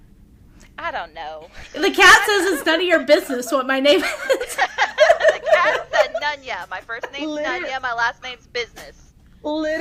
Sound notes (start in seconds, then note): 3.9 laughter